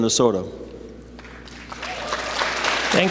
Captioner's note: applause